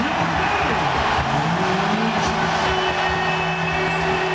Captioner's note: crowd cheering